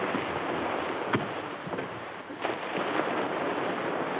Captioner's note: feet thud